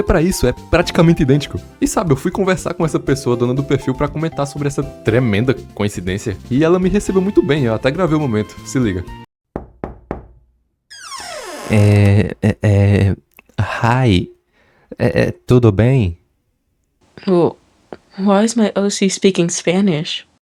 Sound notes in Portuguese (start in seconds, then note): 9.5 bate na porta